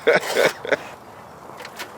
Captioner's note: chuckles